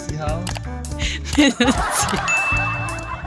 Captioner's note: haha